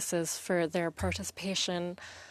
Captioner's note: speaking in French